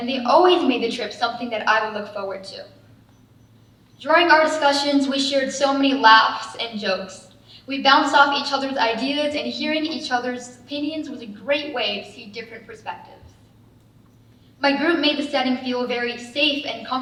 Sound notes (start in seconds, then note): none